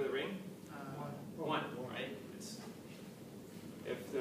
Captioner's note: background comments